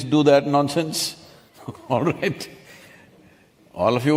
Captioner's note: laughs